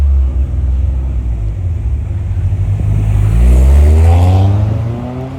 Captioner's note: engine reeving